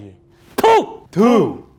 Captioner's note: spits